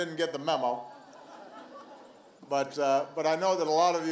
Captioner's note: laughter